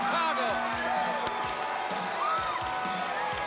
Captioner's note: bell ringing